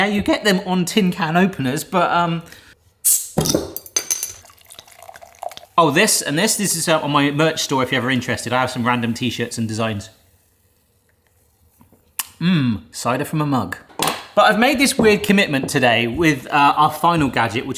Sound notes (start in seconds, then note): 3.0 bottle cap whooshes; 4.6 liquid splashes